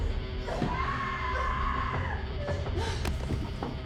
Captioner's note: Sofie screaming